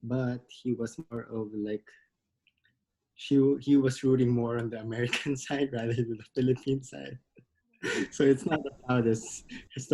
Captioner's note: laughs